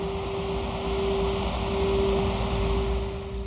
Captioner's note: waves crashing